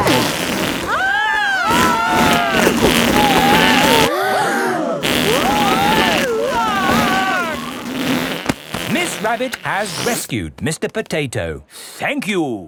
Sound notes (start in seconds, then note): 0.8 both screaming; 4.6 crowd gasps; 6.3 screaming